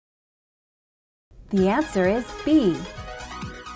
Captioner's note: female announcer speaking